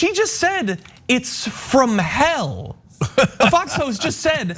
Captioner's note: laugh